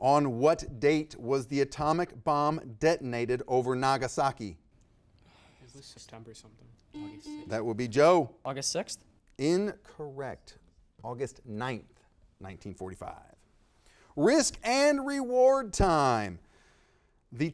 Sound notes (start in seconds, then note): 6.9 buzzer beeping